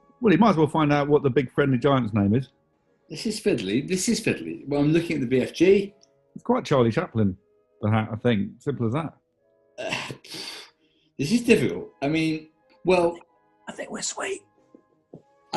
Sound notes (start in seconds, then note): 9.8 sighs; 13.5 whispers